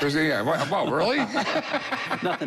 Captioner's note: laughter